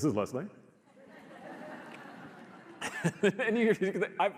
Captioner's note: audience laughs